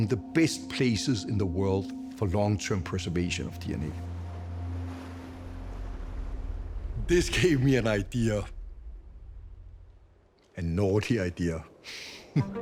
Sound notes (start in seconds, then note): 3.4 waves lapping shore; 12.3 laughs